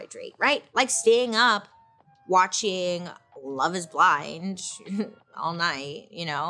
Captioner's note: chuckles